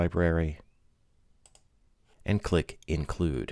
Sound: clicking

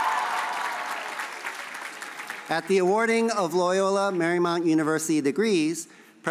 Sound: cheers and applause

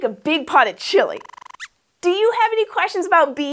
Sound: squeaks squeaks

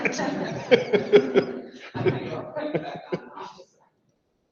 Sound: people laugh loudly

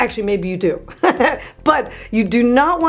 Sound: laughing

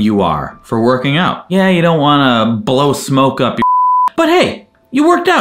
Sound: beep

